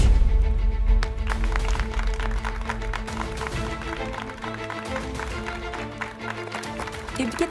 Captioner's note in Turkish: Alkış sesi